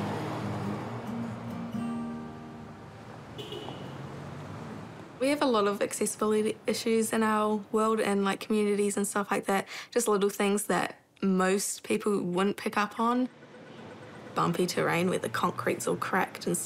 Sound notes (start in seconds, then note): 0.5 guitar music ends; 3.3 horn toots